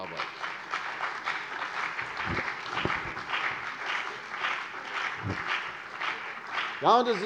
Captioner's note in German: Beifall CDU und BÜNDNIS 90/DIE GRÜNEN